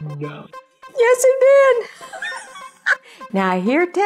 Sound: laugh

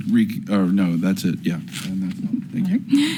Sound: none

